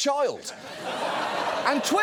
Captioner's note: audience laughs